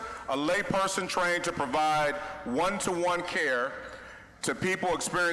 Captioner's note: none